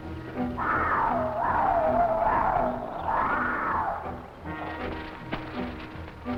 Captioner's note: tense music; hyenas howling; plants rustling; tense music